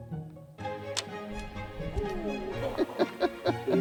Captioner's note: laughing; sound of arrow zipping past camera